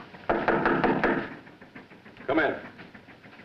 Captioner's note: door knocking